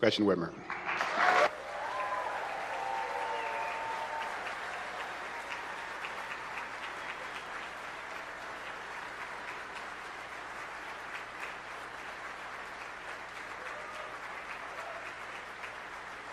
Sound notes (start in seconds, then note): 5.4 applause